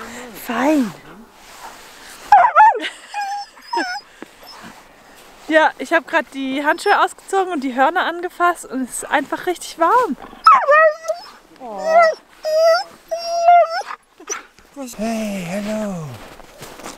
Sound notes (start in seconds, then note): 2.3 Caesar is barking and howling; 10.4 Caesar continues howling